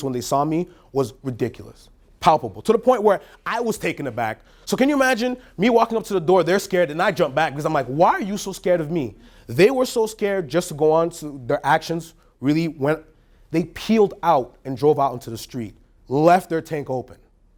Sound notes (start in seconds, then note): none